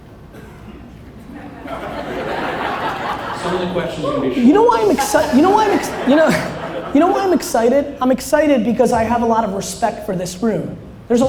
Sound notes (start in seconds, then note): 1.3 audience laughter; 4.4 laughs